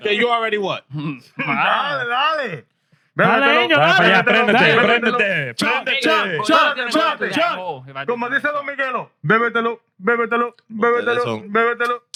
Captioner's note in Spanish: Hablando en idioma extranjero